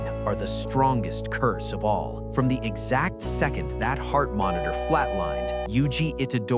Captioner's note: heart monitor beeping